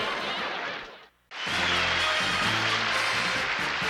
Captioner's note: laughter; cheering; exciting music